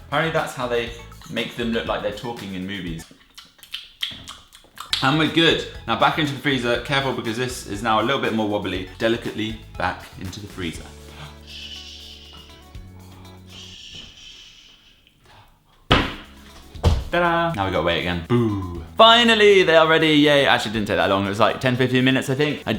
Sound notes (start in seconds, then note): 3.0 clicking tongue; 15.9 slam; 15.9 thud